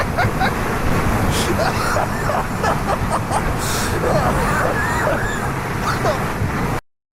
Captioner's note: struggles to breathe